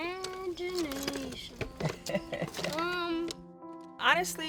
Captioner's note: laughs